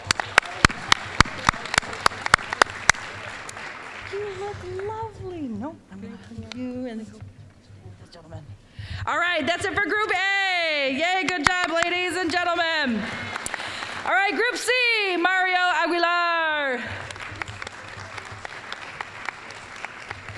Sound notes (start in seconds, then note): 0.0 applause; 12.8 applause; 16.7 applause